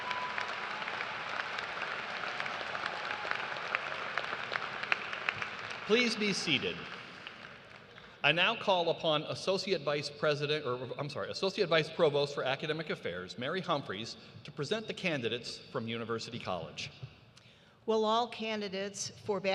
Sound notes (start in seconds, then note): 0.0 cheers and applause; 6.9 applause